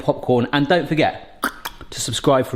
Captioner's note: tongue clicks